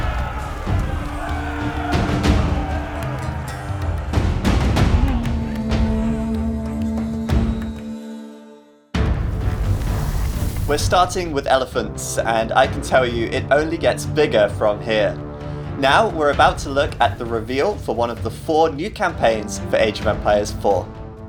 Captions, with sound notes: [SOLDIERS YELLING] We're starting with elephants. And I can tell you it only gets bigger from here. Now we're about to look at the reveal for one of the four new campaigns for Age of Empires IV.